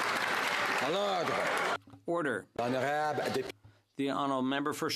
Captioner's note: some Applause